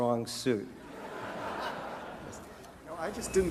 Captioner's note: audience laughter